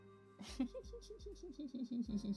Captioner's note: laughs